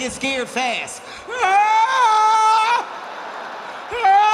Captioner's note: screams